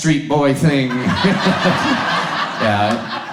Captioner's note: audience laughs